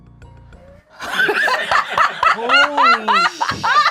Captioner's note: laughs